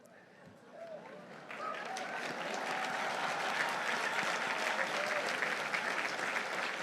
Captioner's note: audience applauding; audience cheering